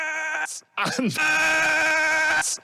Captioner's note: exasperatedly